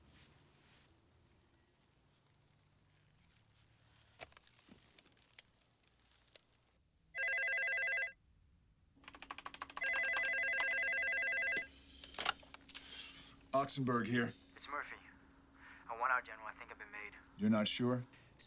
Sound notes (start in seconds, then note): 7.1 phone ringing; 9.0 keyboard clacking